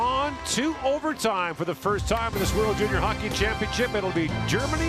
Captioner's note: horn